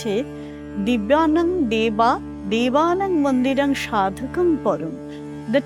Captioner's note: chanting